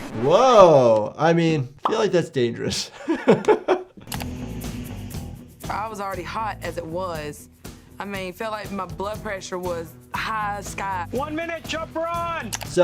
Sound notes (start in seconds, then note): 2.6 laughing